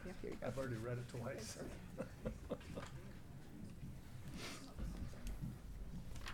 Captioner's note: laughing